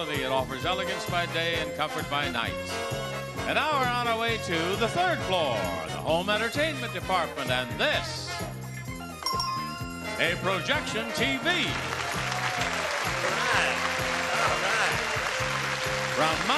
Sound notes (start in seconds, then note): 8.7 bell dings; 10.4 audience cheering